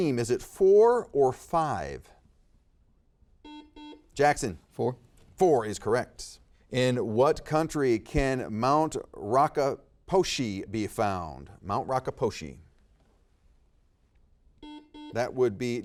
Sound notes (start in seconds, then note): 3.4 buzzer beeping; 14.6 buzzer beeping